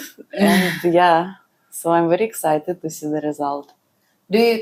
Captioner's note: laughs